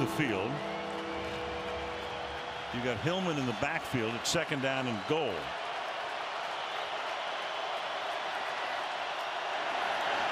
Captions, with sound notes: coming off the field. You got Hillman in the backfield at second down and goal. [cheers, applause]